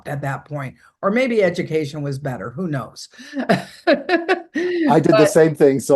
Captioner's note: laughing